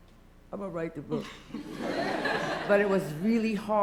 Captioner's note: laughter